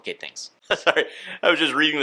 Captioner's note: laughs